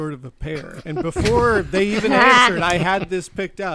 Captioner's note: chuckles